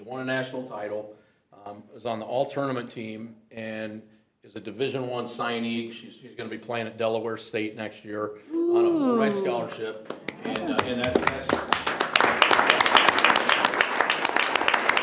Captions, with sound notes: won a National title, was on the All-Tournament team and is a Division I signing. She's gonna be playing at Delaware State next year. (group cheers) On a full-ride scholarship. And we have. (group applauds)